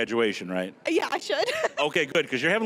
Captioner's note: laughing